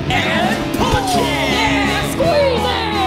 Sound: yelling

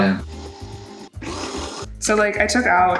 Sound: blender whirring

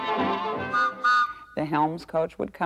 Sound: whistle toots

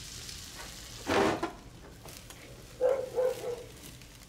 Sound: barking

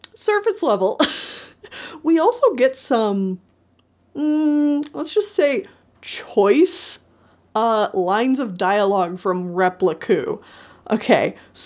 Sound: laughs

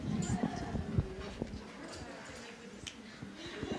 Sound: chattering

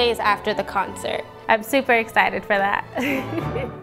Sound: laughter

